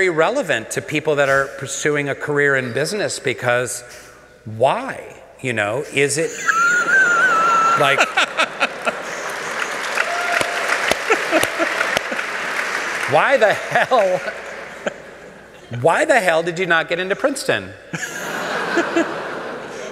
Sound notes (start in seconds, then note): 6.2 laughter; 8.6 applause